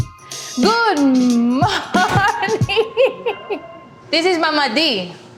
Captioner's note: laughing